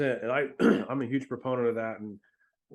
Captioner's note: clears throat